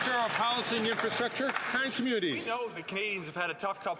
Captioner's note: some Applause